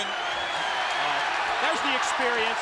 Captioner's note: crowd cheering